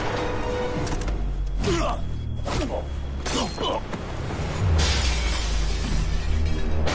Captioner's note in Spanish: Gruñido